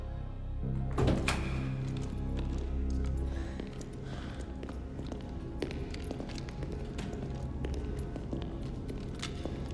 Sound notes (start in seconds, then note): 1.4 door clicks; 4.5 footsteps tapping